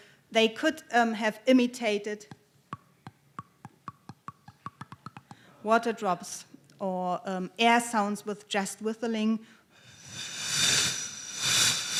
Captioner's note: taps on flute; blows on flute